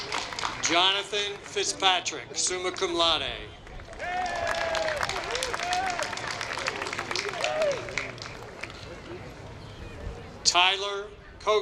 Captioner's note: applause